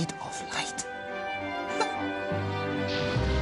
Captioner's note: <i> laughs</i>